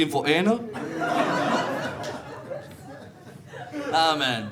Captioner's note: audience laughing